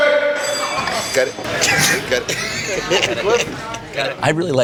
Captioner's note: laughs